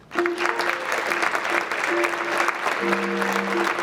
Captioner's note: audience clapping